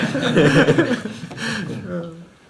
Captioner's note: laughter; laughs